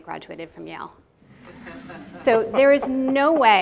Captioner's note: audience laughing